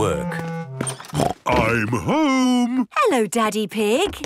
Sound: snort

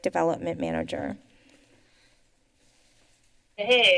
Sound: pause

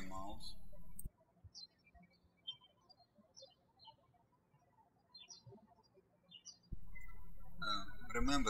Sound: birds chirping

